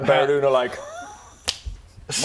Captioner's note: snap